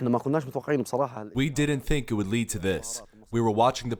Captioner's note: through translator